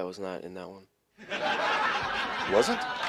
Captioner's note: audience laughing